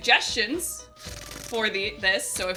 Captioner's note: mouths gun sounds